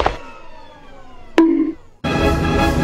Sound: pipes banging, floor impact; bonk

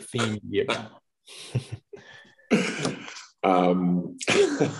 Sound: laughs

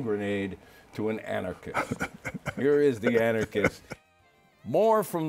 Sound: laughs

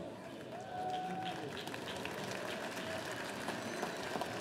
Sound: audience applauding

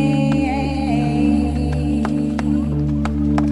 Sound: clapping

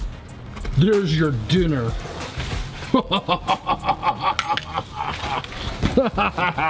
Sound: laughing

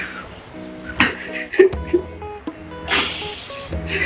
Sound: Mico sobs

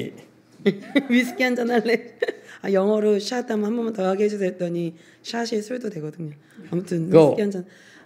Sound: laughs

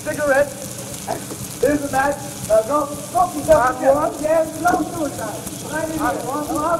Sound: shooing

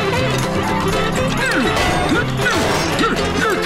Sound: grunting

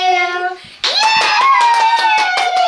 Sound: cheers

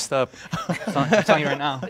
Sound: laughter

